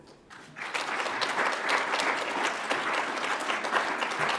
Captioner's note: audience applauds